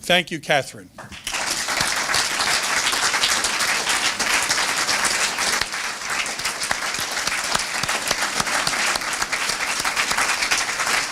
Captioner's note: applause